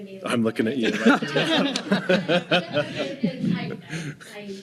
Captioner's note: laughing